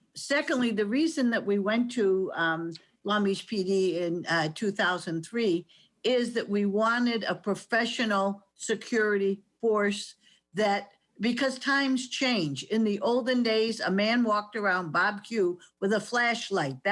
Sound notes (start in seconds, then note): none